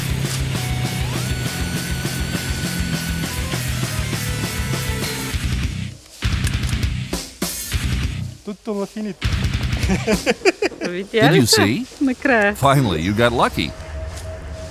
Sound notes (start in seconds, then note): 0.3 rock music; 11.2 laughing